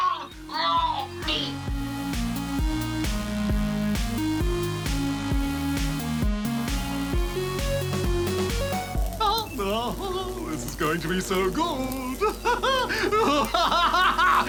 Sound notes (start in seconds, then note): 8.9 electricity crackles; 12.1 laughs